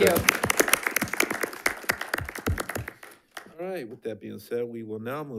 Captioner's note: members applauding